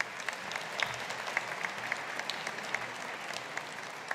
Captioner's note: audience applauding